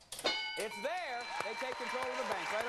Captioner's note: bell dinging